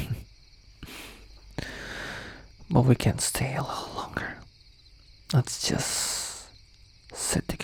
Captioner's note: laugh